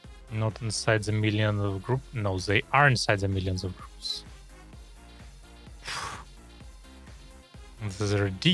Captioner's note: speaking German